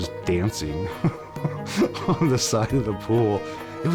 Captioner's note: laughs